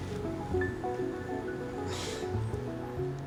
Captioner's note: chuckles